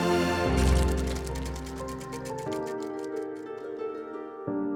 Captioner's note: inspirational orchestral music continues; projector whirring